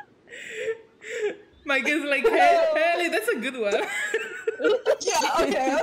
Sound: laughing

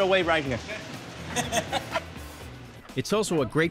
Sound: chuckles

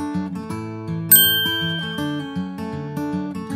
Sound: ding

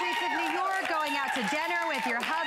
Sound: applause

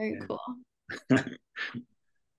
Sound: laughs

